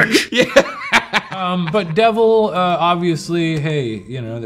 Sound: laughs

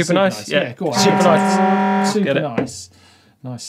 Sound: horn blares

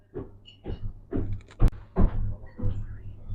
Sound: footsteps

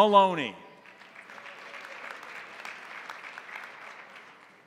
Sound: crowd applauding

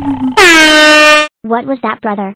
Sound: air horn loud

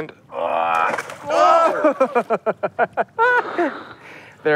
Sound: laughing

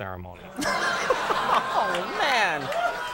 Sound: audience laughs; laughs

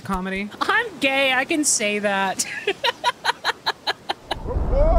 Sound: laughter

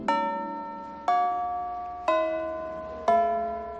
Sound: school bell rings

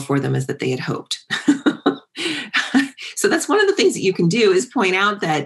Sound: laugh

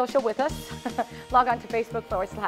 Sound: laughter

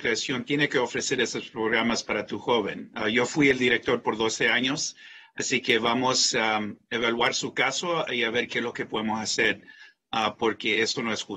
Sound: speaking in spanish

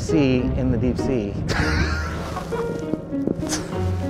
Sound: laughs

